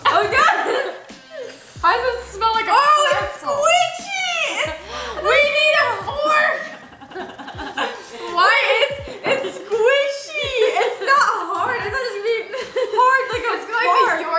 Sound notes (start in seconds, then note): 8.4 laughs